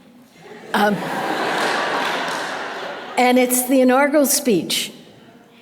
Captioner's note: audience laughter